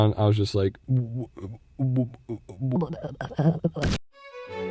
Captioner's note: stammering again